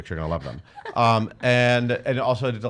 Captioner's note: laughing